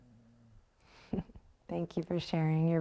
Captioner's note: chuckles